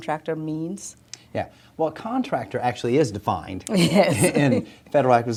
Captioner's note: laughs